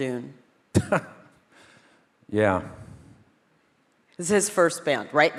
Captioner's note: chuckles